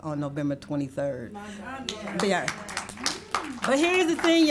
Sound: audience applauds

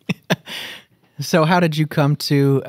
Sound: chuckle

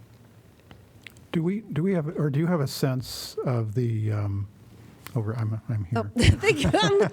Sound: laughter

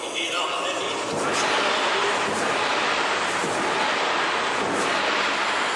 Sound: loud sounds of gongs

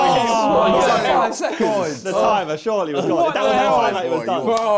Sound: crowd mumbling

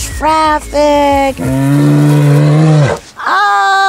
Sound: bear growl

